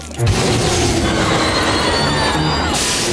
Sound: screaming

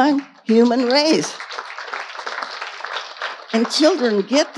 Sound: audience applauding

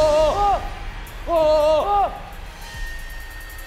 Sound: ahhhh

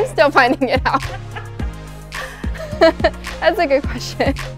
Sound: laughter

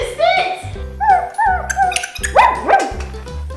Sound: gorilla barking

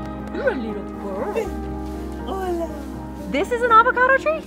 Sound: in spanish

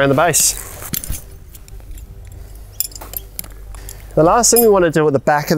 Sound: pegs clanking

